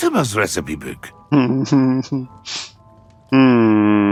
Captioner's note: muffled laugh